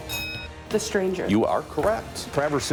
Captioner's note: bell dings